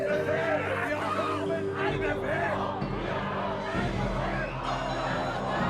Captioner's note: chant